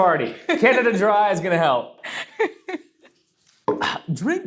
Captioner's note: laughs